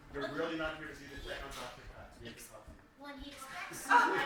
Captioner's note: indistinct chatter